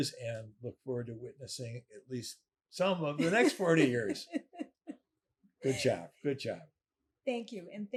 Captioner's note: laughing